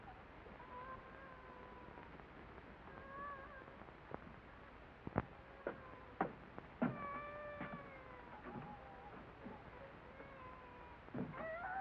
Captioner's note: sound of child crying